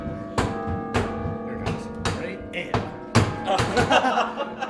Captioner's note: laughter